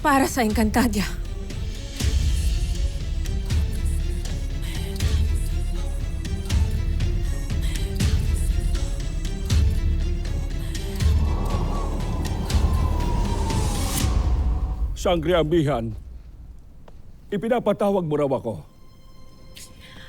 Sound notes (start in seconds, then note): 10.6 wind howling; 13.7 music fades